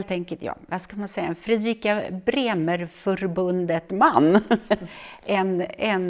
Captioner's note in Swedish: skratt